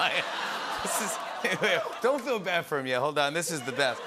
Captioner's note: laughter; audience awws